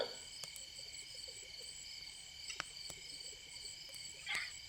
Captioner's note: fire crackling